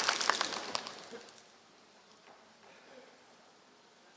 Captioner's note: applause